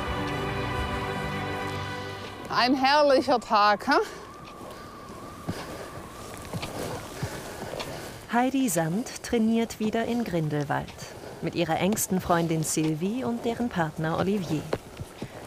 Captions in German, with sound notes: (Musik verklingt.) Ein herrlicher Tag, ha? (Windrauschen, Stapfen, Keuchen) Heidi Sand trainiert wieder in Grindelwald. Mit ihrer engsten Freundin Sylvie und deren Partner Olivier.